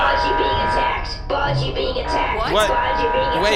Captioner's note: alarms start blaring